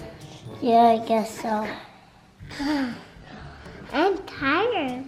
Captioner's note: sniffles